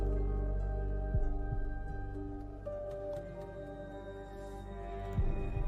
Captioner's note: none